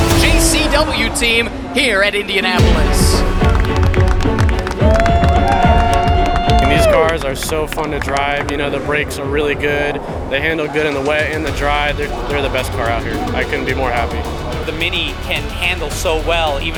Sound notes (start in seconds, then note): 2.9 crowd cheering; 2.9 upbeat music